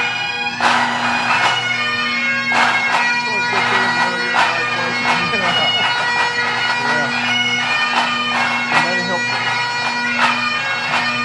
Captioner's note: applause